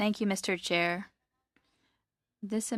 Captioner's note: speaking French